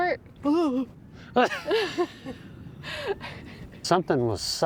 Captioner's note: laughter